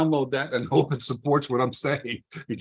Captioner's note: laughs